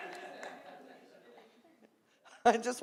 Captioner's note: audience chuckling